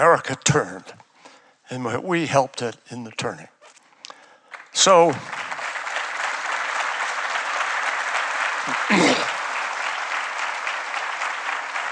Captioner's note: applause